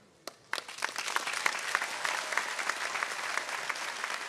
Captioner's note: audience cheering